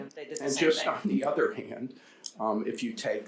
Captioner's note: chuckling